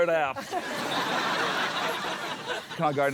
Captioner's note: laughter